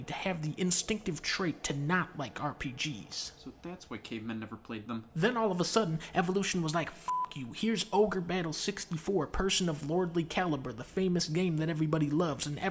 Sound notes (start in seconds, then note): 7.0 beep